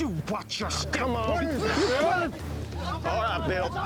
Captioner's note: men yelling